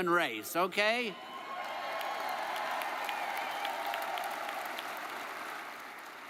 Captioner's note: audience cheers and applauds